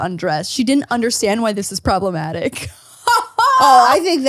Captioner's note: laughs